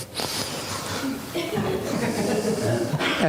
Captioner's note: audience laughing